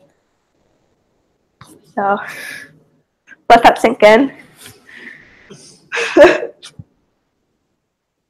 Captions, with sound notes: So ... let that sink in. [Laugh]